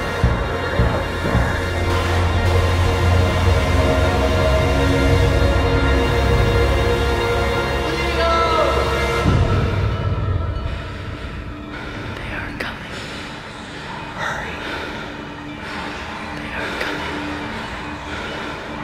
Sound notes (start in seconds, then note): 2.5 loud rumbling, droning growling